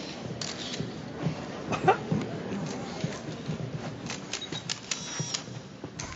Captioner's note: cameras clicking